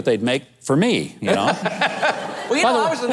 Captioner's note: laughing